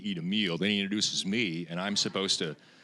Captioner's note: audience laughing